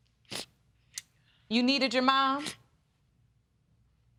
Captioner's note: sniffling